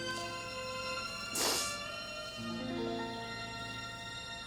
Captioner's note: sniffs